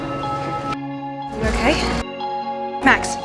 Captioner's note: voiceover